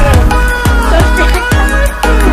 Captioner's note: laughs